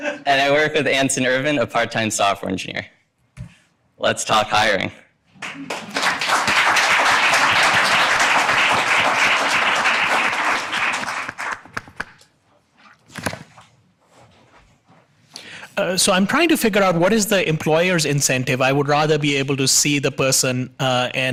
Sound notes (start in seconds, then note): 5.3 audience applauding